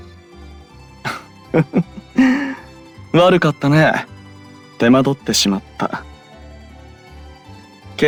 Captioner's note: laugh